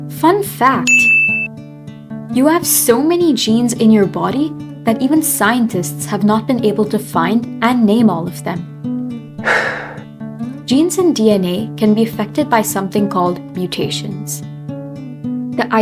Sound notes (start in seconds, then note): 0.7 “Ting” sound effect; 9.4 sigh